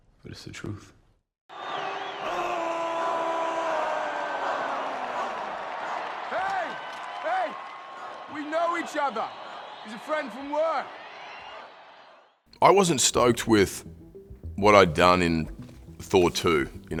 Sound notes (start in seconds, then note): 1.6 crowd cheering